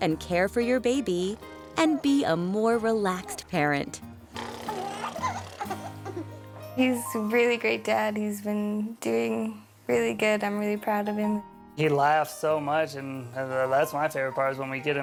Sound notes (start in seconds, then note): 4.4 baby laughing